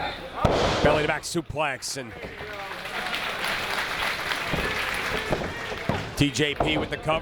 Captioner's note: applause